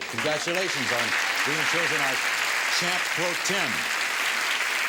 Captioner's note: applause